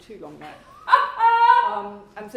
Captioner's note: laughs